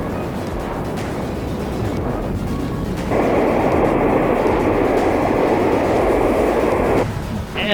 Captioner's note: wind blowing